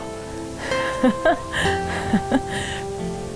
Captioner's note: laughing